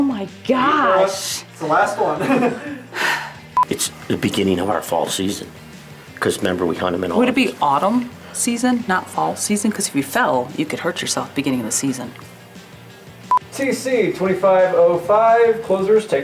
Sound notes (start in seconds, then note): 1.9 laughs; 2.9 sighs